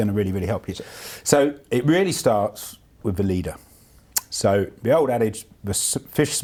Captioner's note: none